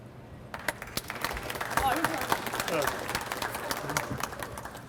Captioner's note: audience applauds